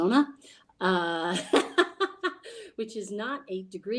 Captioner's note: lady laughing